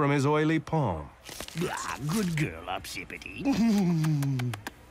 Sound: peck kisses

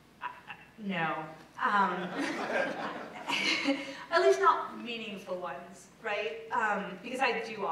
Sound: laugh

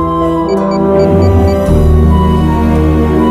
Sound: beeping

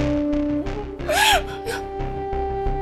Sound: sobs

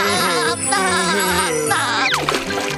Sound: laughing

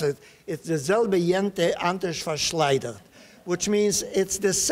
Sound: speaking Yiddish

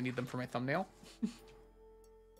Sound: chuckles

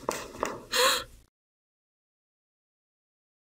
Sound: footsteps; gasps

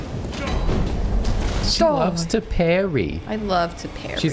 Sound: exagerated mom voice

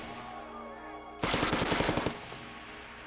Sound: shouting; gunfire

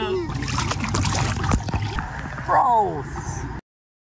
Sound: water splashing

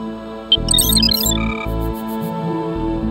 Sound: beeping

